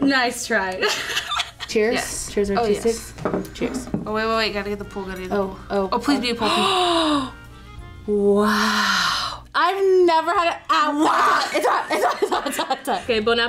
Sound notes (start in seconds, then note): 0.8 laughs; 8.4 gasps